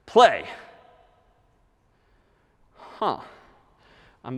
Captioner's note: silence